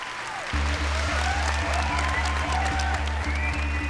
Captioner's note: applause; cheering